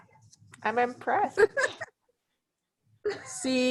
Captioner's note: laughs